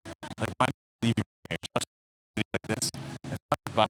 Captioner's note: audio cutting